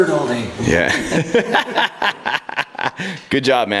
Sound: father laughs

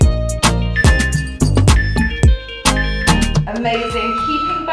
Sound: timer beeping

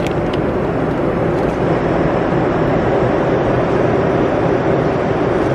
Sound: engine rumbling continues

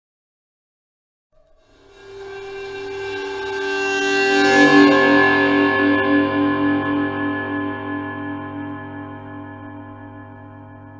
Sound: horror screech

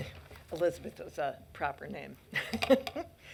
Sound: laughs

